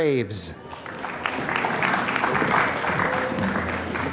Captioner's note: applause